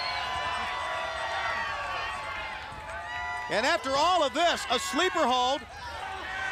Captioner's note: crowd cheering